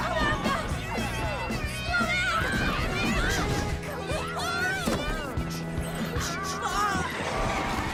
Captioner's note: proceeded with more screaming